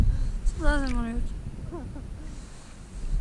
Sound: he laughs

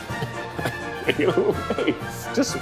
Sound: laughing

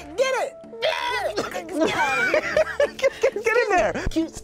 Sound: laughs

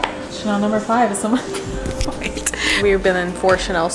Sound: laughing

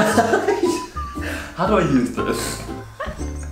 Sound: weird voice

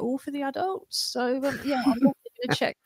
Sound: laughs

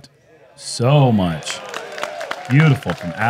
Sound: applause

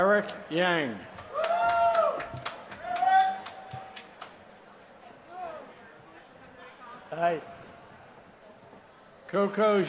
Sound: applause

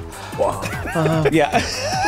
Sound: everyone laughs

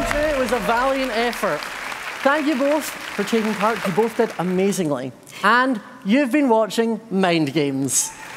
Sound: cheers and applause

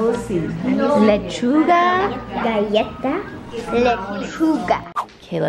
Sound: speaking Spanish

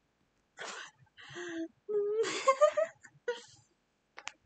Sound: giggles

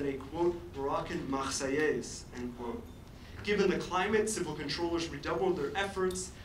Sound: foreign language

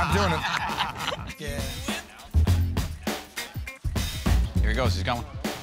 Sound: laughter

